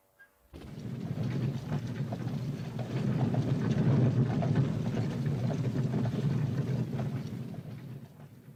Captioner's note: Harry whistles; coach rumbling